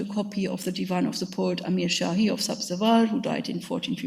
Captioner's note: speaks in a foreign language